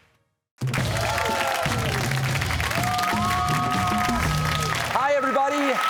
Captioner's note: cheers and applause